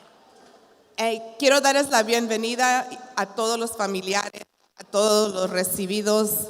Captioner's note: continues speaking in Spanish